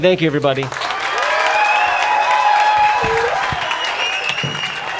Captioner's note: crowd cheering